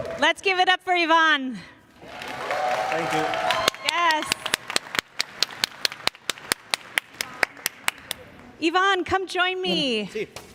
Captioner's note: cheers and applause